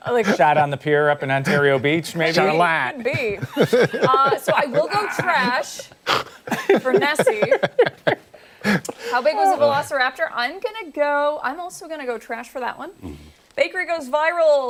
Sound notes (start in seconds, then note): 8.2 laughter